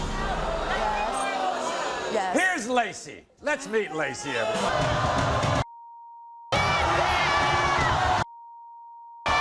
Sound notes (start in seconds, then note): 0.0 audience groans; 4.9 audience shouts; 5.9 beeps